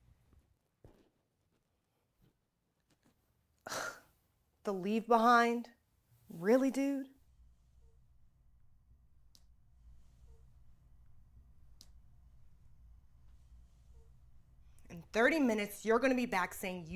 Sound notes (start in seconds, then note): 4.0 scoffs